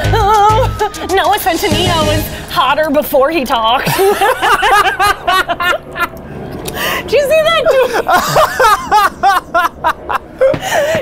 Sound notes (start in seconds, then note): 3.8 both laughing; 7.6 both laughing